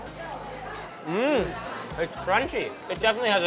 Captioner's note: moans